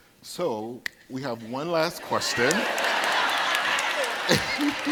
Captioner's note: audience laughing